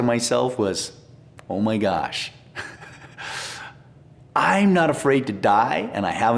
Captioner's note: laughs